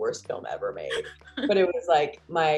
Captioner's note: laughs